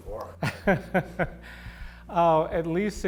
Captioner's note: laughter